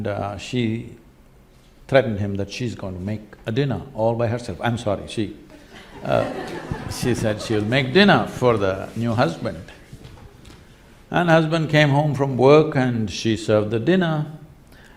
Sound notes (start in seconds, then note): 5.5 laughter